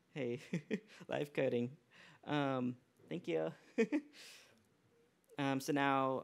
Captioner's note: laughs